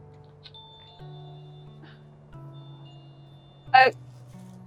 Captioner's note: door bell chimes